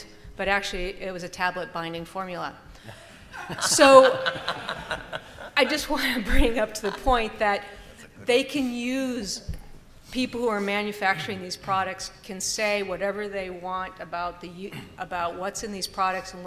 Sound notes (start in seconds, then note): 3.3 laughter